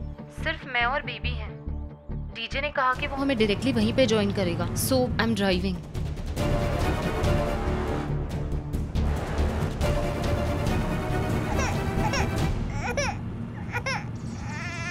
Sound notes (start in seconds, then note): 6.2 pensive music playing; 11.4 baby crying